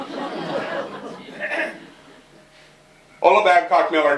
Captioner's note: laughter